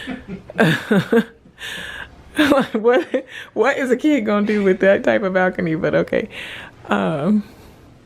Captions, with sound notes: (laughing) What is a kid gonna do with that type of balcony, but okay.